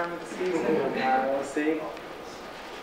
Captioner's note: audience laughs